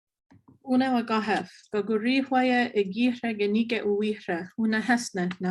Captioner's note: speaking foreign language